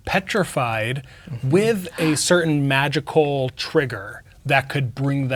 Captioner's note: gasps